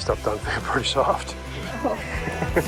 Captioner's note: chuckles